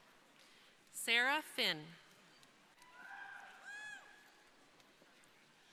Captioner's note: crowd cheering